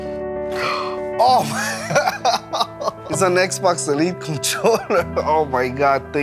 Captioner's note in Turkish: gülüyor